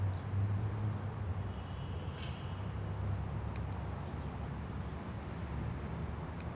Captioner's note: insects chirping